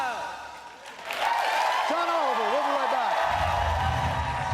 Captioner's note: cheers and applause